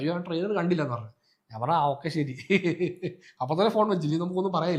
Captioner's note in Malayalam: പൊട്ടിച്ചിരി